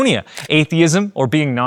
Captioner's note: camera clicking